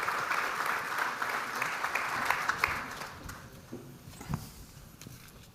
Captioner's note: audience continues applauding